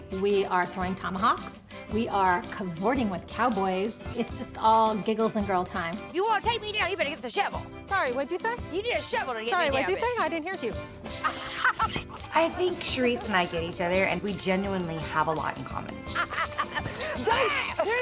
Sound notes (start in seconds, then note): 11.2 laughter